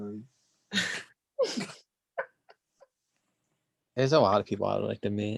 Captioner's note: laughs